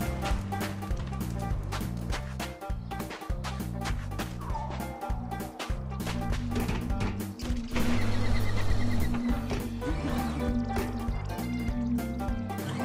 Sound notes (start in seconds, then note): 2.9 steps; 7.3 machine noises